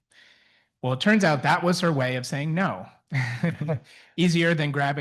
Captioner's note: chuckles